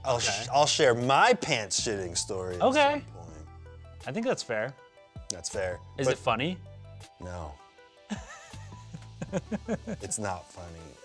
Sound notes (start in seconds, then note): 8.0 laughs